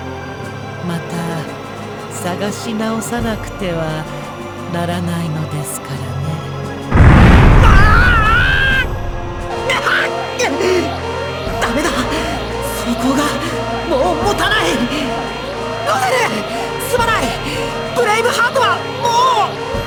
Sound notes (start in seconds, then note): 7.0 pained cry; 9.6 pained grunt